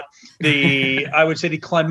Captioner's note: laughter